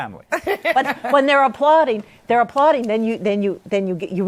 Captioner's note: laughter